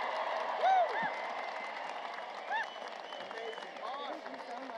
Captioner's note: applause